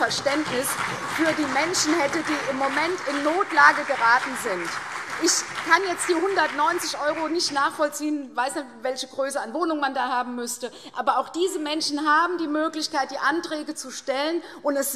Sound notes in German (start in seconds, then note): 4.3 Beifall CDU und BÜNDNIS 90/DIE GRÜNEN